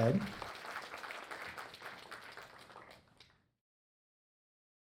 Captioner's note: audience applauds